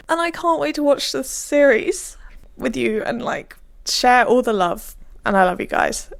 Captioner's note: none